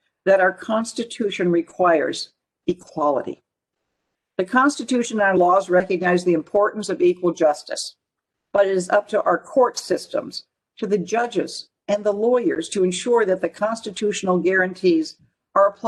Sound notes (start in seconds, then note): none